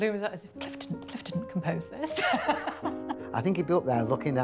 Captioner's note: laughing